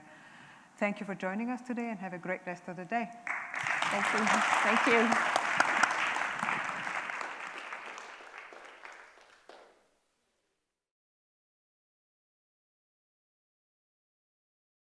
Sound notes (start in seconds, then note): 3.3 applause